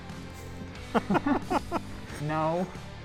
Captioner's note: laughs